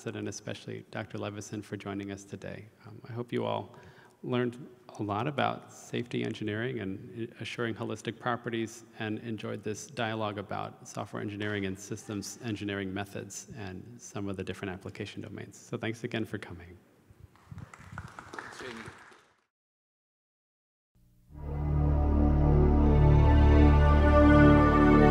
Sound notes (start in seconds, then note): 17.3 audience claps; 21.4 inspiring ambient music